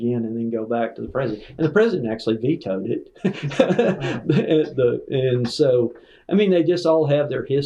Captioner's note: laughter